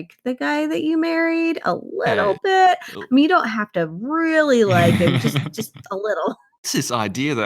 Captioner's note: laughs